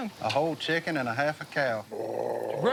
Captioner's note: growls